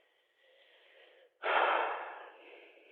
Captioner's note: sigh